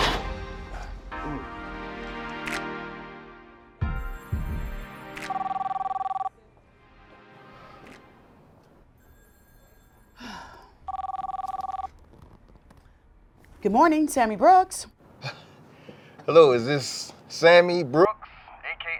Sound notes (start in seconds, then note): 5.2 phone ringing